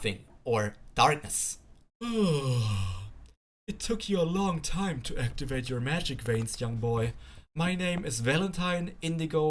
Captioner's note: yawn